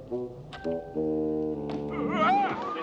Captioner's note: Roublot screams